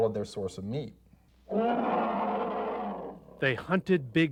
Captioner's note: roar